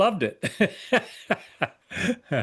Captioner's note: laughs